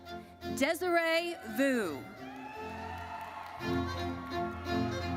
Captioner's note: audience cheers